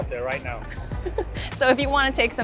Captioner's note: chuckles